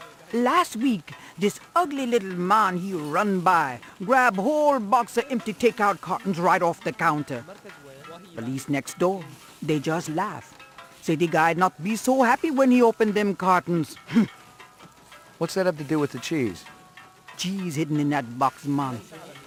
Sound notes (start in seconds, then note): 14.5 scoffs